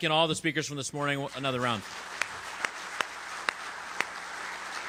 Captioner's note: audience applauding